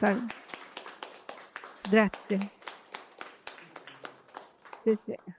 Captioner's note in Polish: Aplauz